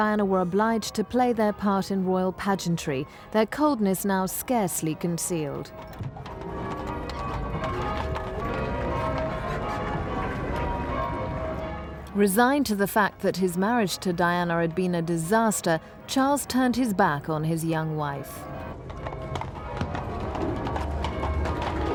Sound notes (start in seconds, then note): 7.1 church bells ringing